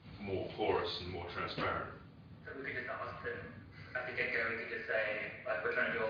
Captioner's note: audio distorts